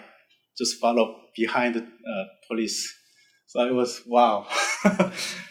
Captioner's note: laughs